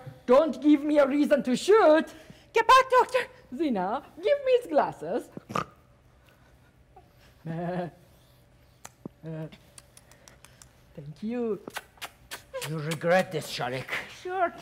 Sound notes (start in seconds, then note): 5.4 Sharik softly snorts; 6.9 Sharik softly chuckles; 11.6 Sharik making kissing sounds